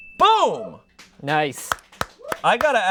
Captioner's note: bell dings; audience applauding